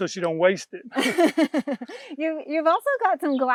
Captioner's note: both laugh